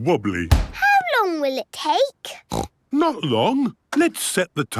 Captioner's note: snorts